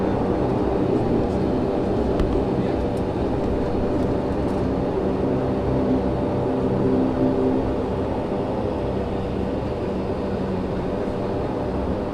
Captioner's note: aviation noise